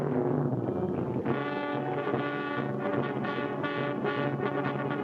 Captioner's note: water bubbles